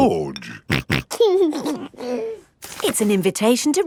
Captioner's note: snorting and giggling